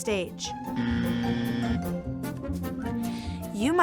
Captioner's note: buzzer